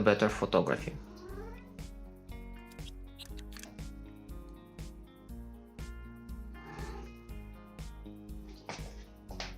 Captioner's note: Manoon meows